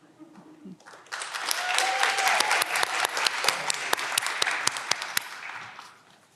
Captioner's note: audience clapping and cheering